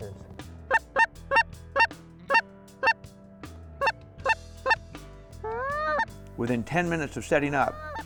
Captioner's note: geese calls